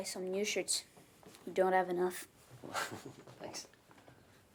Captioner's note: laughs